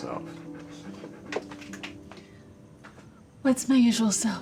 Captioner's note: dog panting